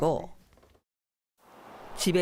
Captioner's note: voiceover